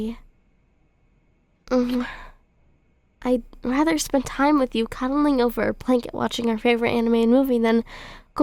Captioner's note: kiss